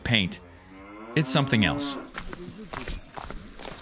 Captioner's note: cow moos